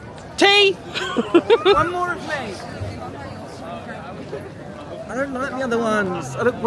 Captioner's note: giggles